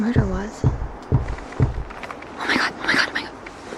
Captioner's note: object banging